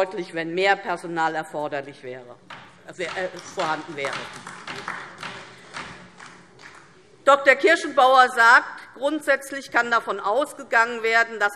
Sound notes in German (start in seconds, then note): 4.0 Beifall DIE LINKE